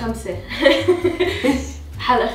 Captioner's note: laughter